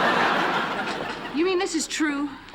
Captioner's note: laughter